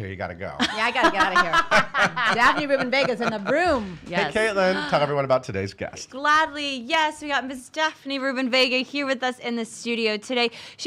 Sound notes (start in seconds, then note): 0.6 laughing loudly; 4.6 gasping